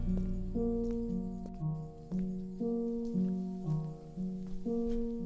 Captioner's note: footsteps approaching